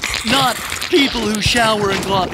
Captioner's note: squelching; taps squeaking